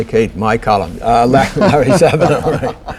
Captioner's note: laughter